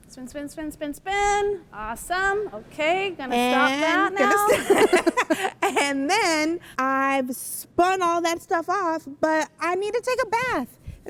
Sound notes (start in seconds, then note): 4.3 laughs